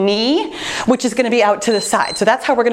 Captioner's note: timer beeps